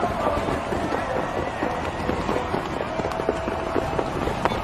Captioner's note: crowd clamoring